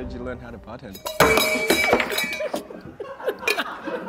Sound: clattering

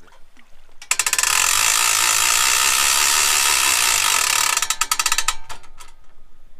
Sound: winch boat sounds

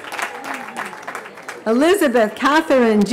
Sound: cheering

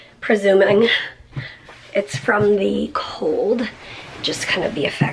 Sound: none

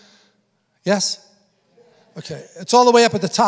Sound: congregation affirming

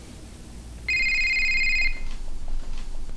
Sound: ringing

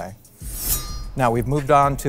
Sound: sword slicing

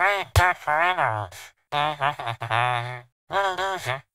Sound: Laughs like squidward

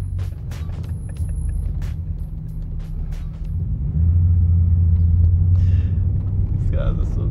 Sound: laughing

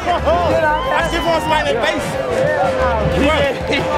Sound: screams

